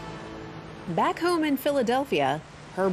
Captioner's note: waves crashing